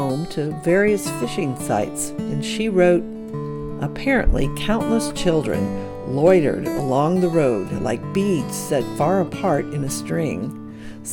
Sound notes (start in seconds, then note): none